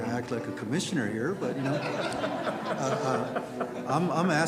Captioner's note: crowd laughs